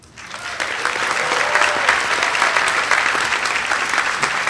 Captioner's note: audience applauding